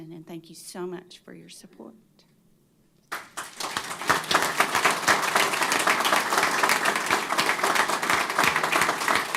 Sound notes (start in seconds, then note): 3.0 applause